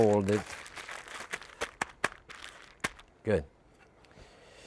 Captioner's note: bag rustling